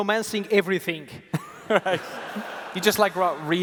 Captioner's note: laughter